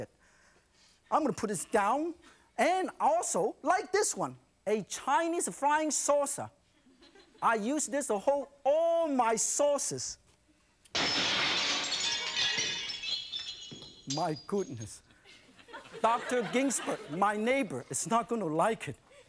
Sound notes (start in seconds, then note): 10.9 crashes; 15.6 audience laughs